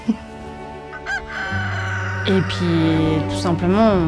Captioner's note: rooster crows